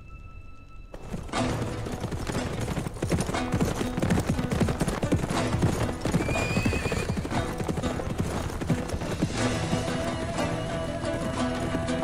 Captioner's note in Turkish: Nal sesleri